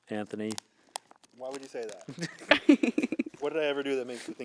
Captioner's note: laughing